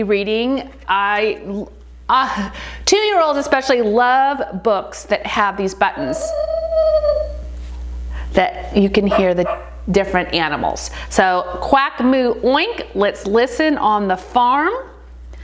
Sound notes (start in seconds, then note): 9.0 animal sound from book; 9.0 dog barking sound from book